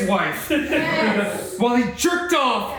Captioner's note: cast and crew laugh